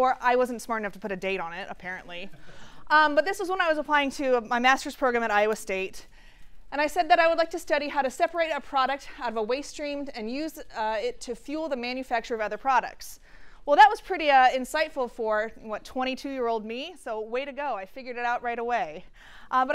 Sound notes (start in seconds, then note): none